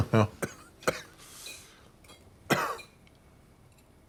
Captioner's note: coughs